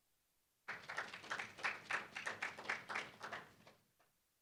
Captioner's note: applause